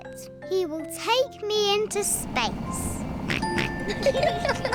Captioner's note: oinks; both giggle